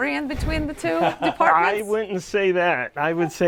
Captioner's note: laughs